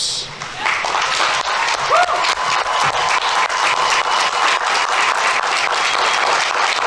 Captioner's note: audience applauding; audience members cheering